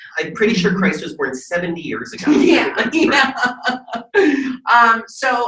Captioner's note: Jinxx laughing